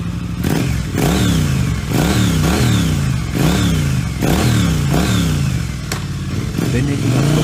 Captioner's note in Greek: Ήχος μηχανής που παίρνει μπρος και ύστερα απομακρύνεται